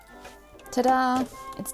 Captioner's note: machine whirrs